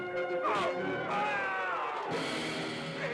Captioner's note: yelling